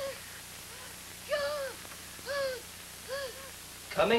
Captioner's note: wheezing heavily